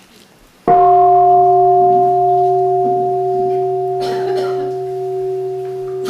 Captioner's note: gong